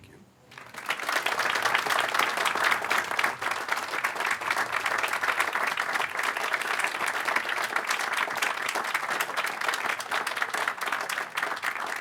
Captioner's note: applause